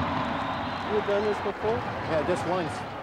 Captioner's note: cheering